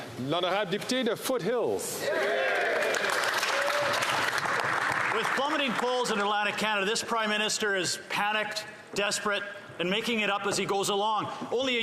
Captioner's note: applause